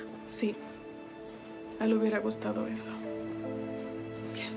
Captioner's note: speaking in Spanish